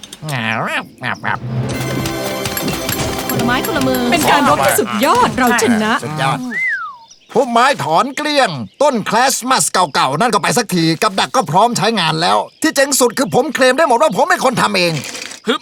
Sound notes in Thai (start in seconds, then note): 1.6 เสียงค้อนตอกโลหะ; 6.4 ผิวปาก